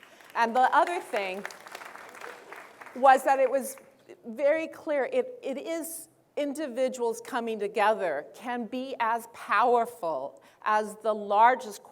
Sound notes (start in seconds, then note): 0.0 applause